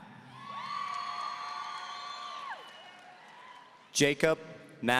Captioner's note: audience cheering